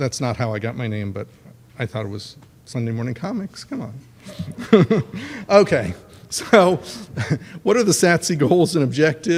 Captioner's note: laughs